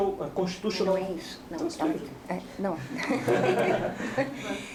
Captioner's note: speaking portuguese